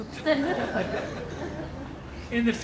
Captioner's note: audience laughing